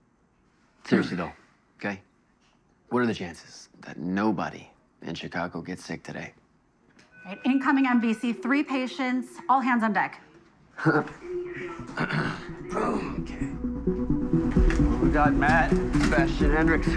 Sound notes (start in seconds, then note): 10.8 chuckles; 11.5 clears throat